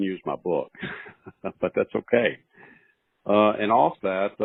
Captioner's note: chuckles